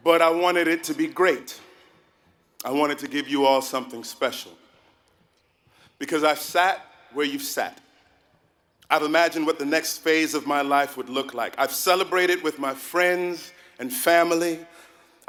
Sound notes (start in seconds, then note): none